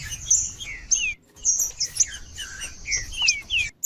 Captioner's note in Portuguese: trinca ferro cantando